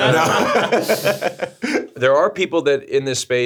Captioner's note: streamers laughing